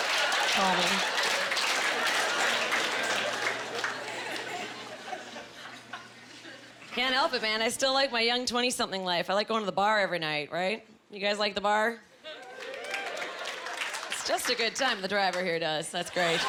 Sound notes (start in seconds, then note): 12.3 cheering; 16.1 laughing